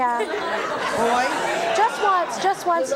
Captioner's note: audience laughing